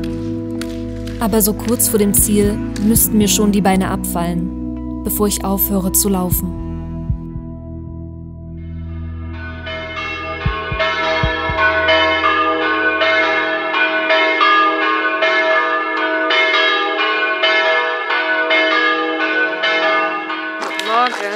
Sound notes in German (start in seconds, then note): 7.1 Glockenläuten